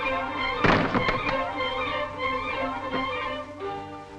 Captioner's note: doors thudding; gentle music